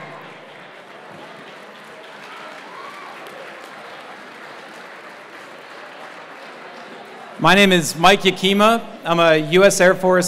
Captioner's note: applause